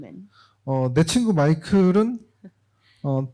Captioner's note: speaking korean